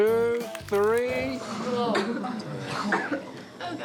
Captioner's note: coughing